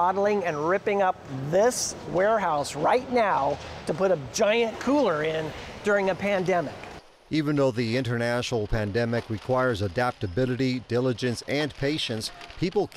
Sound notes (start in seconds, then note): 8.4 paper crinkling